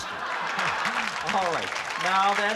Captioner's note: applause